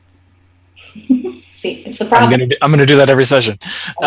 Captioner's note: laughs